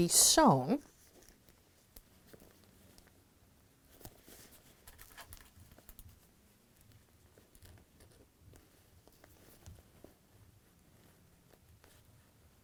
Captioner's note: no significant sound